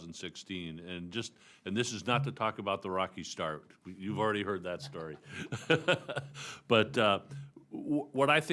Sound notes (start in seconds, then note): 4.7 laughs